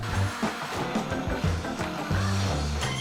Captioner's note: blender whirring